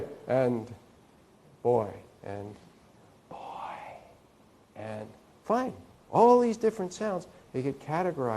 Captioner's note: whisper